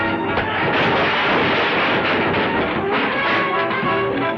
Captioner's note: shelf crashes